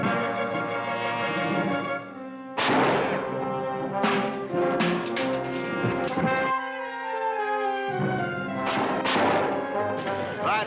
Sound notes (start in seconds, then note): 2.6 gunshot; 4.0 clangs; 8.6 gunshots